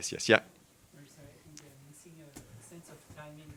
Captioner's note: attendee 1 faintly speaking